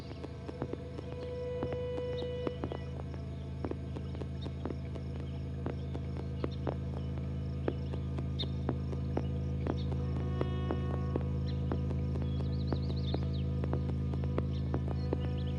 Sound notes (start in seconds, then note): 0.3 haunting string instrumental notes; 12.2 birds chirping